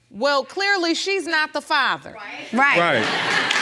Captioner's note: audience applauding